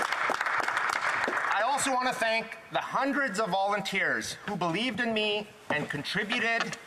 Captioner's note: some Applause